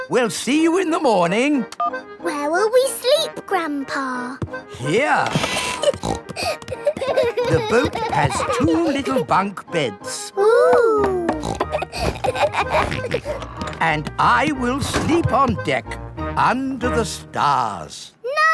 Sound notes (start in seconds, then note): 5.2 snorting; 6.8 kids giggling; 11.0 snorts, laughs